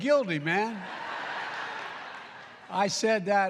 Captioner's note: laughter